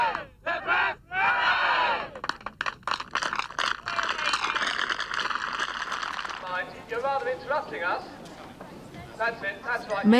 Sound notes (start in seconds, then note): 2.6 crowd applauding